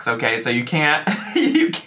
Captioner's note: laughs